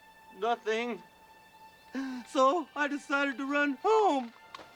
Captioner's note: sobbing